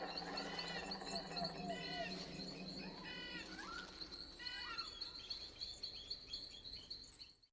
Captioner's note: exotic forest sounds